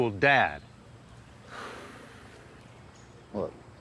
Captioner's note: George Jr. Sighs